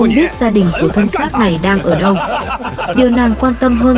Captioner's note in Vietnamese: tiếng cười